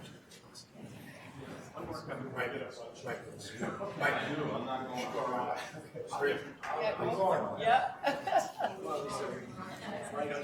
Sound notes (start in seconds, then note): 4.5 people chattering